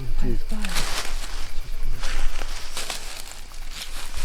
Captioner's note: chatter